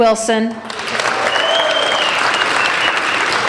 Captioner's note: applauding